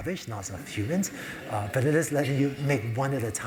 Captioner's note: laugh